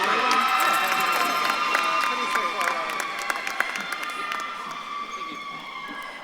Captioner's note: audience claps and cheers